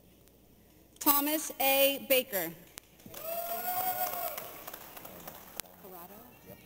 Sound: audience applauding

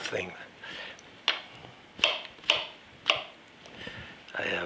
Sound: knife clacking

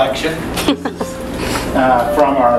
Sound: laughing

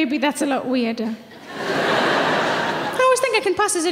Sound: audience laughing

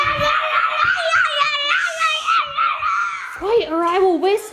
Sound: yells

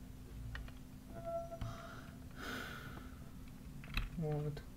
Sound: sighs

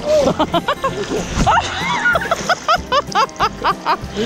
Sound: laughing

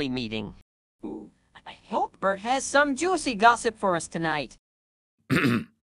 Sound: excitedly; clears his throat

